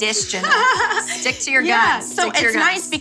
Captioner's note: laughs